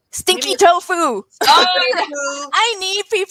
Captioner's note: laughs